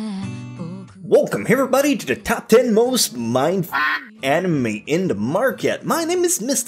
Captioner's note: quack